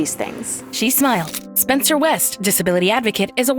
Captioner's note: camera snaps a photo